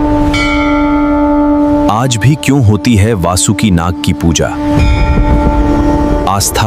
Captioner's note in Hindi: घंटी की आवाज़